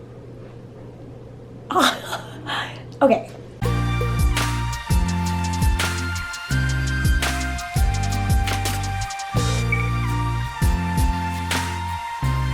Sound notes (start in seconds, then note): 2.2 laughs; 3.3 intro music